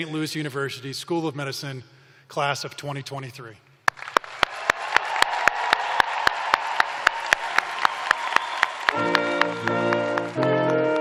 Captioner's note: cheers and applause